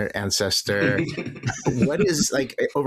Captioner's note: laughs